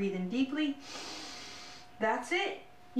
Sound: inhaling sound

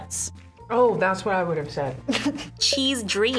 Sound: snickers

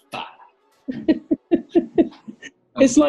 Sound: giggling

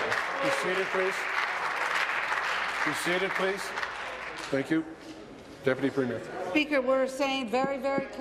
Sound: applause

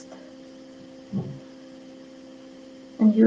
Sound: knock in the air

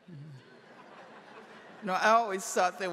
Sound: audience laughing

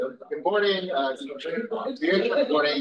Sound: group chattering

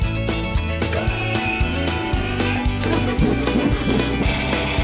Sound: motor whirring

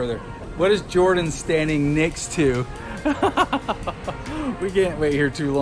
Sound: laughing

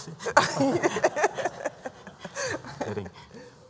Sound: laughter

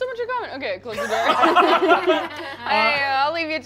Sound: all laughing

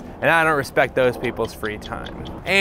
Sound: stopwatch ticking

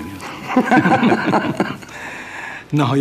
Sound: laughing

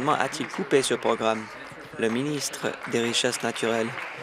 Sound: applause

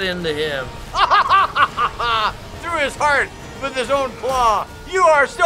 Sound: laughing raucously

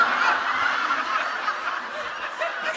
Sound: laughter

